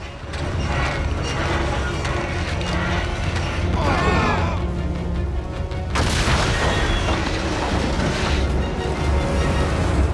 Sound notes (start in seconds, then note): 0.0 creaking; 3.6 moaning